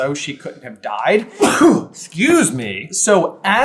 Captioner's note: sneeze!